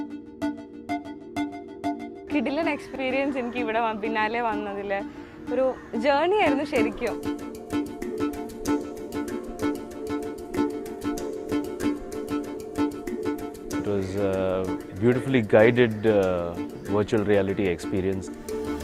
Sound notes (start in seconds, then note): 2.7 speaking foreign language